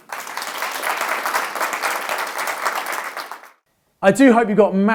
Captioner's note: audience applauding